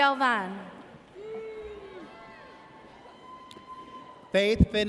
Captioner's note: audience cheers